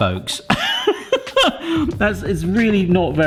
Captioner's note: laughing